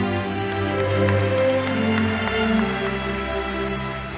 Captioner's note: audience applauding